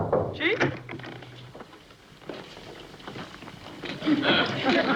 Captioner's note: knocking